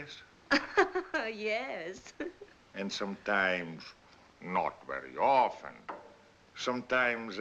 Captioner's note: laughs